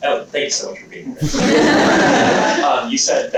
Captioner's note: laughter